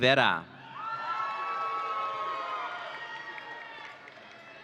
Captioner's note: audience cheering